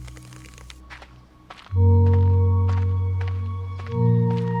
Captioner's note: footsteps